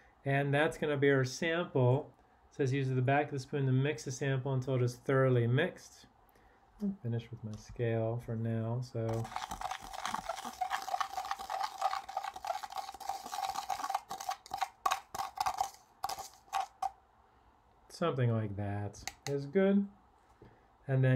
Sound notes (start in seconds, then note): 10.7 spoon scraping